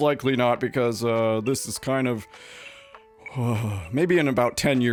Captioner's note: sighs